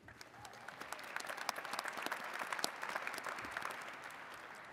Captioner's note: attendees clapping